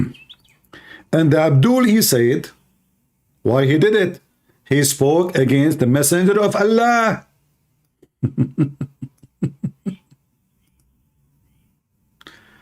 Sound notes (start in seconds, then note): 8.0 Ketawa